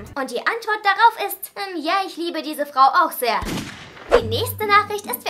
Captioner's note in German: Schuss